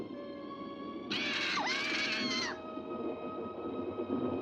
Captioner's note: bird squawking